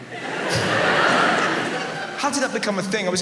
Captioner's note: audience laughs